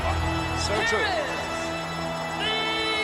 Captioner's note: laughs